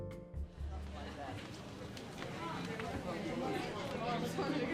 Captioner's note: crowd chatter